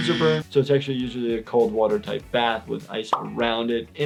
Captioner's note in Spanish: none